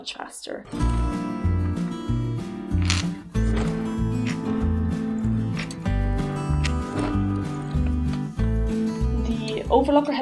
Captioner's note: sounds of clips and sewing machine